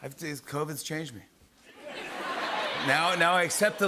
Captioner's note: laughter